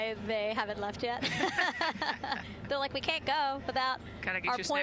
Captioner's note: laughter